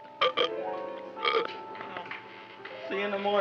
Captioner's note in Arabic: تجشؤ